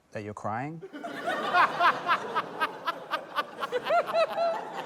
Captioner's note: laughter